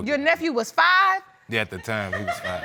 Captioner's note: audience laughing